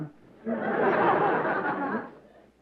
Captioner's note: laughter